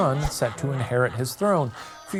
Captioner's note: image whooshing